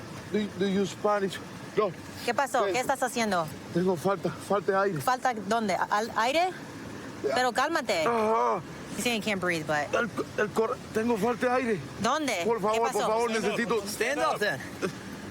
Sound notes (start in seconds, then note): 1.9 speaking spanish; 10.6 speaking spanish